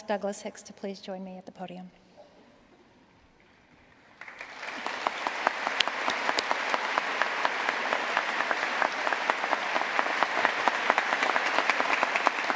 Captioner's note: applause